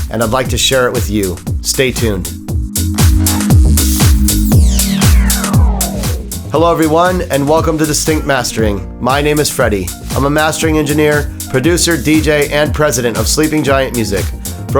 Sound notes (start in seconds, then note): 2.3 upbeat music; 2.8 logo whooshing